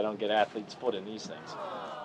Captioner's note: audience awing